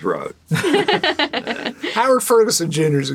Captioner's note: laughing